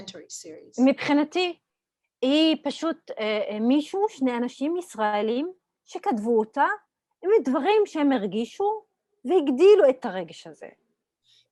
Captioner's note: Hebrew